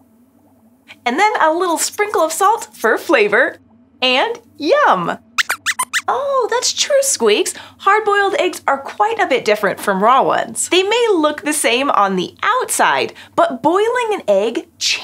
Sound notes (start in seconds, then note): 4.8 squeaks squeaks